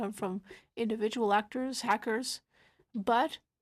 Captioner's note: speaking French